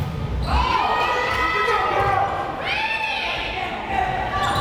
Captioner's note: players shouting